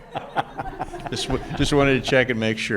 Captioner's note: laughing; audience laughing